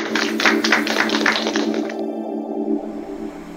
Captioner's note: applause